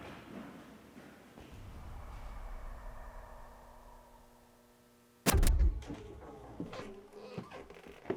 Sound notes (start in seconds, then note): 1.4 air whooshing; 6.7 static crackles